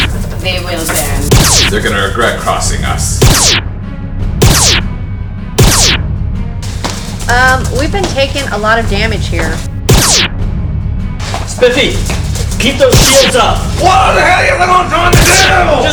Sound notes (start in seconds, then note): 1.2 laser noises; 3.8 laser noises; 9.9 laser noises